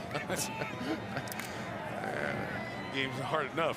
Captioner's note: laughter